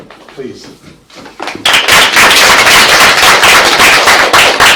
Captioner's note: applause